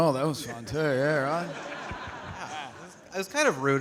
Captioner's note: audience laughing